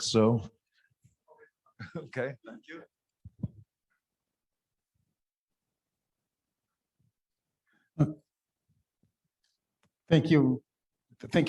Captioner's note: laughter